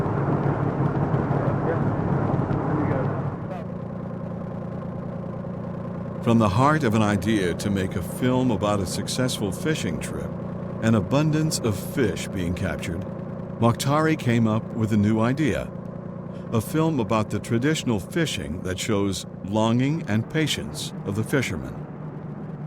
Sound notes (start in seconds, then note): 3.9 motor humming